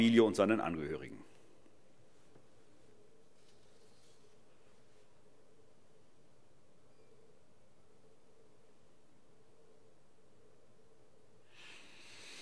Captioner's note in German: Schweigeminute